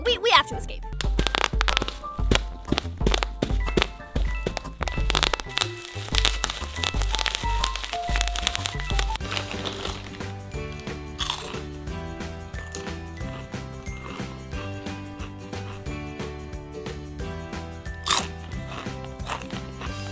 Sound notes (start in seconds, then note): 1.4 bubble Wrap Pops; 5.5 more Bubble Wrap Pops; 10.5 chips Crunching; 18.0 yogurt Crunching